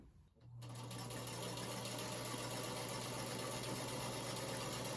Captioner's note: sewing machine whirring